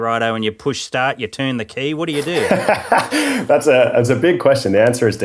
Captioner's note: laughing